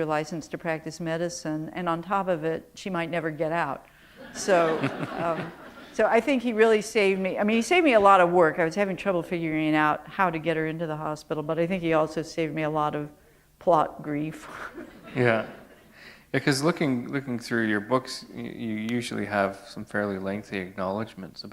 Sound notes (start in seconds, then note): 4.2 laughter